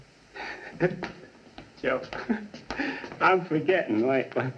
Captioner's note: chuckling